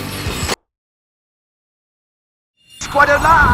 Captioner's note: awkward silence